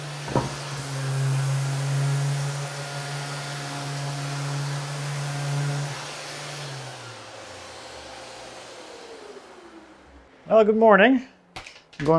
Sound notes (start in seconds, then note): 0.2 board clacking; 1.6 sander whirring